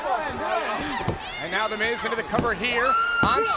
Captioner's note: hands thudding